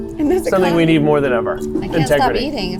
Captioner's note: chuckles